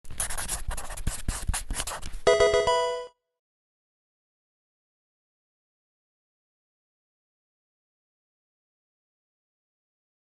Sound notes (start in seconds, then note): 0.1 pencil writing; 2.2 Pokemon game sound